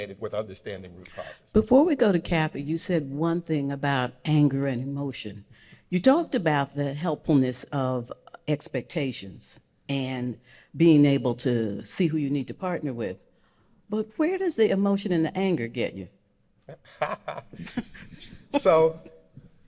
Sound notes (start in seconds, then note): 16.7 laughing